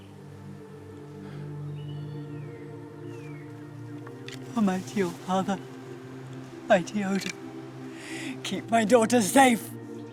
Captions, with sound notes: (gentle music) (birds chirping) Oh mighty, oh father, mighty Oden, keep my daughter safe.